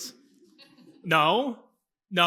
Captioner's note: laughs